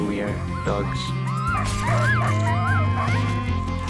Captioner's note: dogs barking